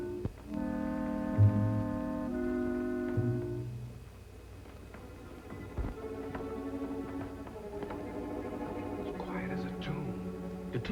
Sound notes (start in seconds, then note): 4.8 stairs creaking